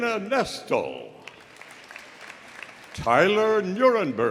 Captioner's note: audience applauding